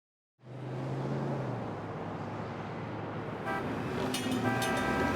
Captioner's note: traffic hums and honks